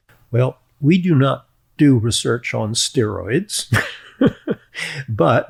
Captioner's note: chuckles